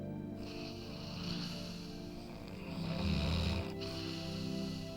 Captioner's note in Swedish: Ryan snarkar